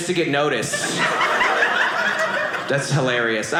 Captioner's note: audience laughing